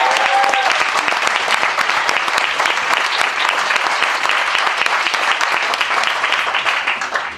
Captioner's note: applause